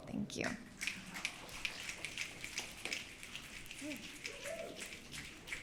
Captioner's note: audience clicking